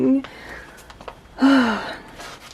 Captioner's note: happy sigh